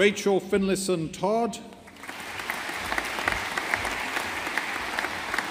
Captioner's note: audience applauding